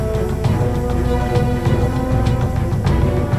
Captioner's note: metal creaking; moaning